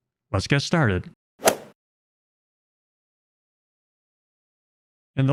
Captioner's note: golf ball hit sound effect